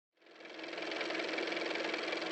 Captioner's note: car motor